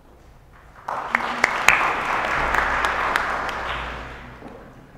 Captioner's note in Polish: oklaski